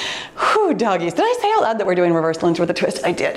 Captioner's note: exhales